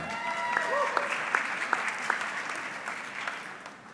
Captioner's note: audience clapping